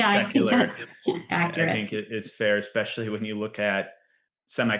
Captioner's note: laughs